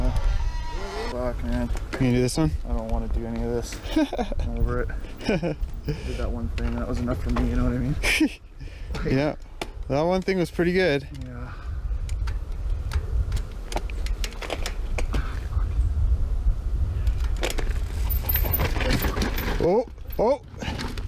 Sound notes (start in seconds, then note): 5.0 laughing; 8.0 laughing